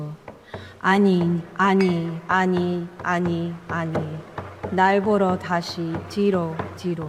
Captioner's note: speaker speaking in foreign language